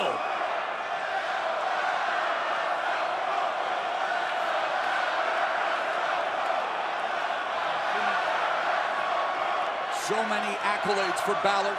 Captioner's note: crowd cheering